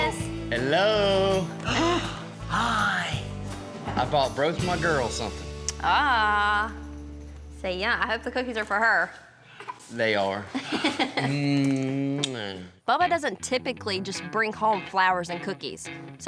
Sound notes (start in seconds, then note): 1.6 gasps; 11.9 smooch